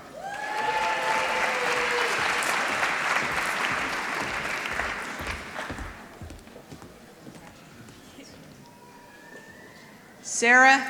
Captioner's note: applause